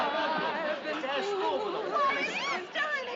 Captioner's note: singing; overlapping chatter